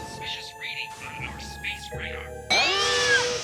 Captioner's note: Owen gasps; alien laughs evilly